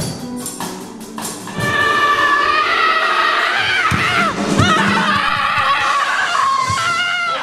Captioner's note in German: brüllt